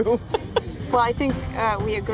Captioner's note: laughing